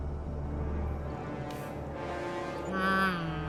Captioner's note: sighs